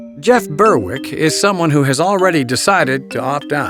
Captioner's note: voiceover